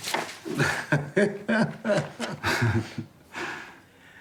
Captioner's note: laughing